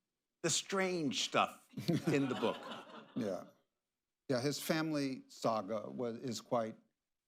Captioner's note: laughter